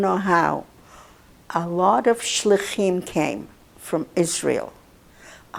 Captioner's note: hebrew